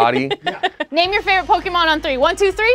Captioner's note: laughing